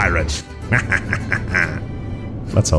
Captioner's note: evil laughter